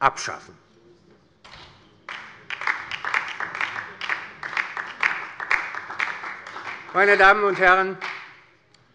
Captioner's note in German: Beifall bei der LINKEN und bei Abgeordneten der FDP